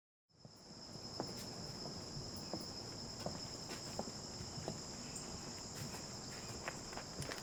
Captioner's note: crickets chirp